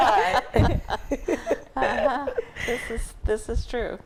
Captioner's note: all laugh